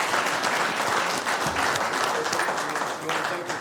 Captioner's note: applause